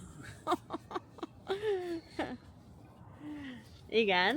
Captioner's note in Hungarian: nevetés